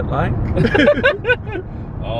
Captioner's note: both laugh